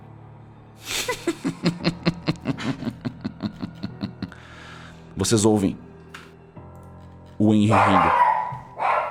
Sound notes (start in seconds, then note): 0.8 laughs